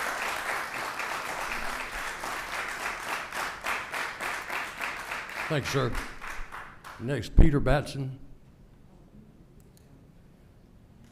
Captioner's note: applause